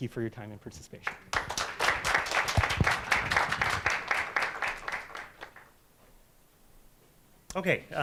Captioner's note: applause